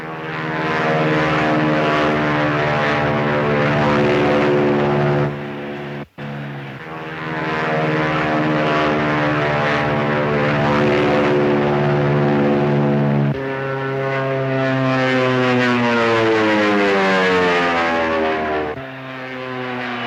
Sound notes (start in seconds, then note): 0.1 airplane buzzing; 6.8 airplane buzzing; 13.6 airplane buzzing